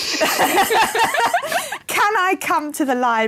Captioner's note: laughter